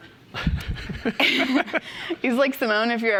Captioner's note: chuckling